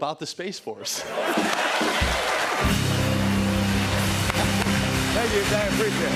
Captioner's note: laughter and applause